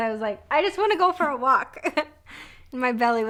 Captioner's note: laughs